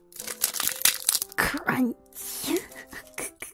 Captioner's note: Crunch